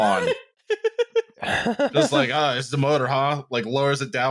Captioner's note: laughter